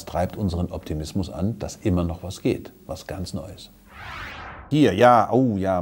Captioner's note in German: Soundeffekt